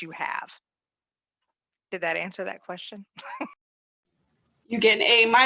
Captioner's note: laughs